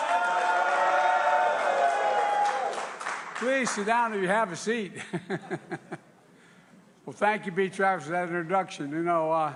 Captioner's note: applause